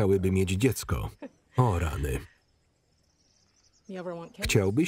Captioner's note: laughs